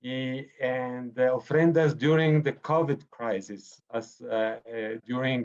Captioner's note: speaking foreign language